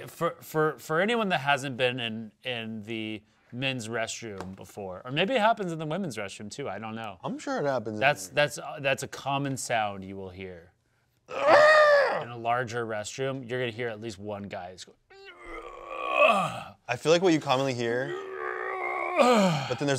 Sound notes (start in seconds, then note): 11.4 yells; 15.1 grunts; 18.0 grunting